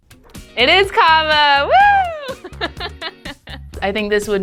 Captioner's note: laughing